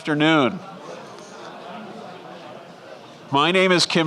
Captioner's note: crowd chatter